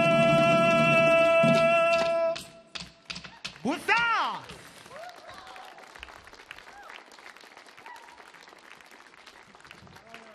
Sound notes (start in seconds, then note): 2.7 audience clapping; 4.8 audience cheering